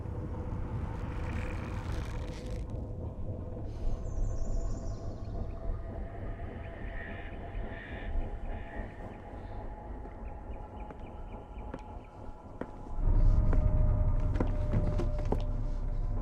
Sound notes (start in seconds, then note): 4.0 birds chirping; 13.0 tense eerie music